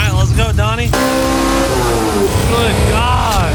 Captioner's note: engine revving